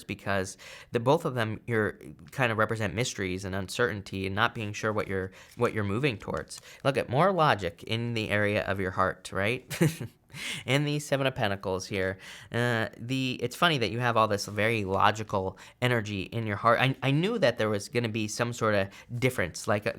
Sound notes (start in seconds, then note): 9.7 chuckles